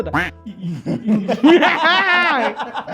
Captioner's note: laughs